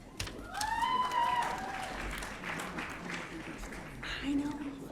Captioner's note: audience cheering